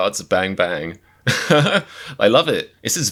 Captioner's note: laughs